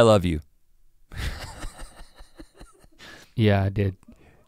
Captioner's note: Rhett laughing